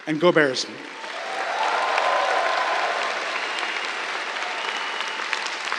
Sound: cheers, applause

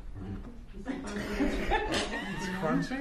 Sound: laughter

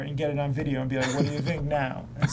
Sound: laughs

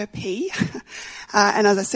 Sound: laughs

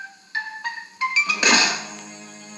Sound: thud

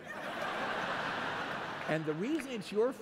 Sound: laughter

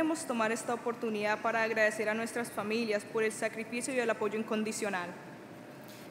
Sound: speaking Spanish

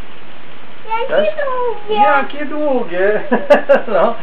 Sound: laugh

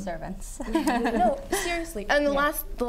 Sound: laugh

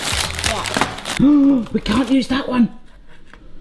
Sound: man gasps

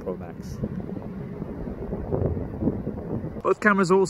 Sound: wind blowing

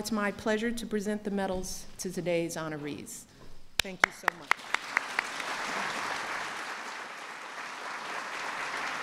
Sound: applause

